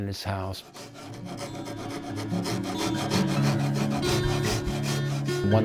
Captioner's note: sandpaper scrubbing